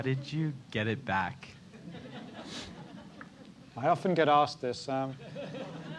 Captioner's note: laugh; laugh